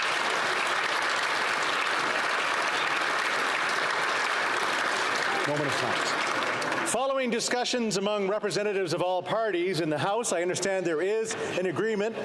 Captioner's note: applause